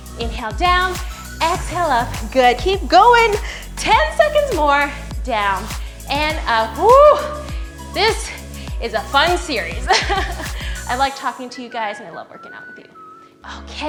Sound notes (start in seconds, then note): 8.0 laughs